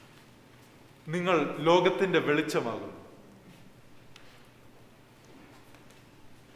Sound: man speaking in Malayalam

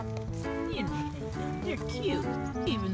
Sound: voiceover

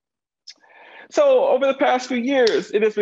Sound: claps hands

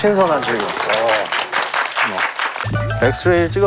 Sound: scolding with applause

